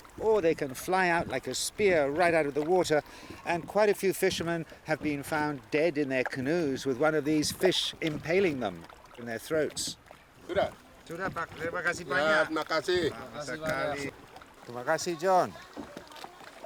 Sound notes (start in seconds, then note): 10.6 speaking Austronesian language